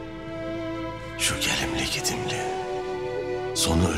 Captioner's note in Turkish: Ertuğrul iç ses